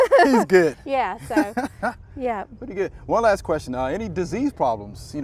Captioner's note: both chuckle